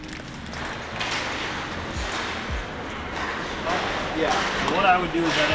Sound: hockey sticks hitting pucks

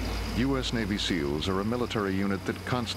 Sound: voiceover

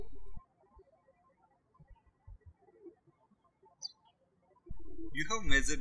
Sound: birds chirping

